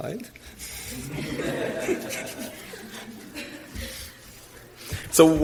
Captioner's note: audience laughs